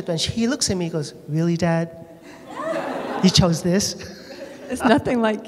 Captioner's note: laughter